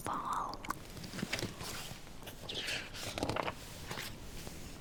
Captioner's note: flips page